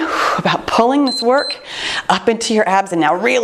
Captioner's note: timer beeps